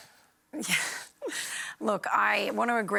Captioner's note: chuckles